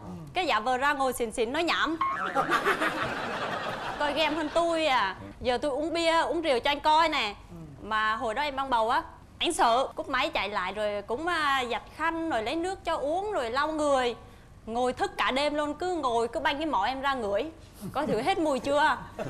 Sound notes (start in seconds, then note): 2.2 laughing